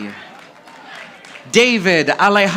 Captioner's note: audience applauding